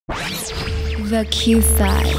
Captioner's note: electronic sounds